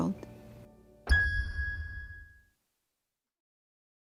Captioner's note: logo pings